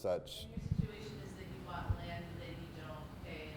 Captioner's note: voiceover